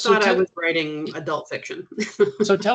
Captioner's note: chuckling